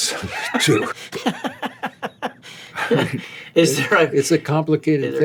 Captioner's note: laughing